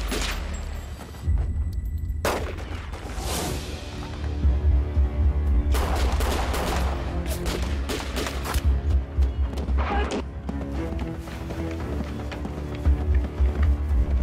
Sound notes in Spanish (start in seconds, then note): 0.0 Disparos; 5.7 Disparos